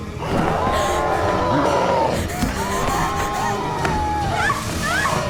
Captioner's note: shrieking; screaming